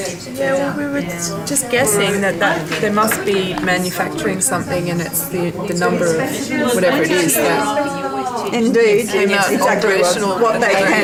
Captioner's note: audience members chatting with facilitator